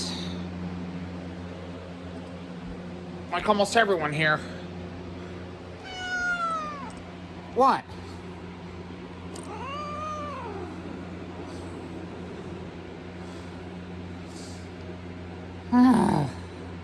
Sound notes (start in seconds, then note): 5.8 Caprice meows loudly; 8.3 Caprice growls; 8.3 Caprice sighs in frustration